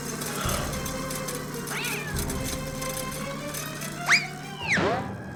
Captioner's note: Jimmy gasping; Blinky meowing; spoon whooshing